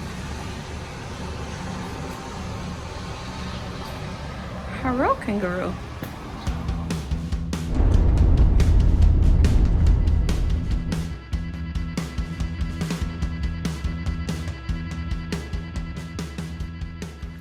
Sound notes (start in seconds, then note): 7.8 road noise starts and then fades away as music continues; 13.9 music starts to fade away